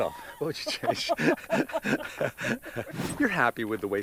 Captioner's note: both laughing